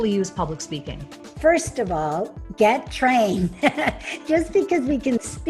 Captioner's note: laughs